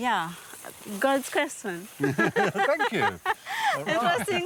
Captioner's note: laughs